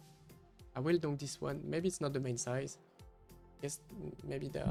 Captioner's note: donk